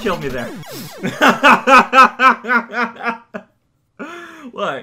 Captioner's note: laughs